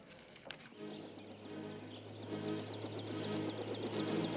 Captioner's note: helicopter